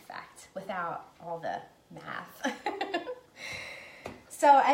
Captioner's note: laughing